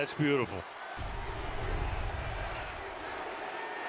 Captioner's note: crowd chanting